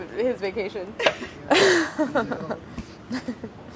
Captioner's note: laughing